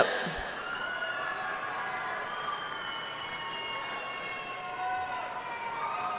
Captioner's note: audience cheering and applauding